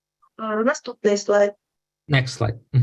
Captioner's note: foreign Language Spoken